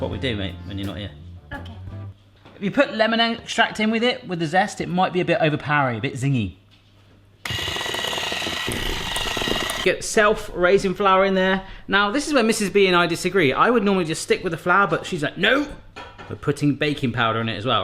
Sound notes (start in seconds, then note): 7.4 whisk whirring